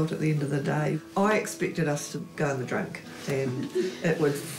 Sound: chuckling

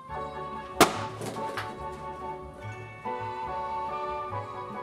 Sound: balloons pops

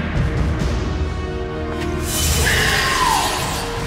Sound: zapping

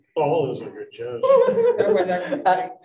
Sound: group laughing

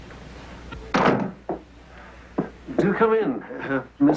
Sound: door slams

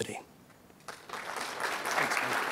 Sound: applause

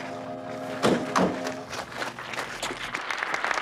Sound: applause

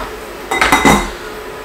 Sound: clunk

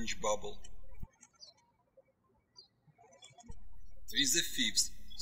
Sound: birds chirping

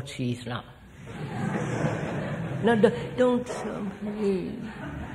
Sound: laughter

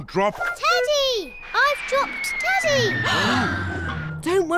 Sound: all gasp

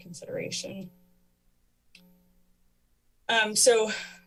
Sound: pause

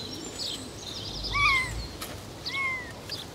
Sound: cat meaowing

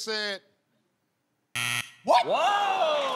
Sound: buzzer

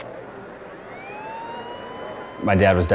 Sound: sirens blaring

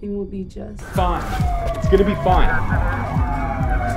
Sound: sirens

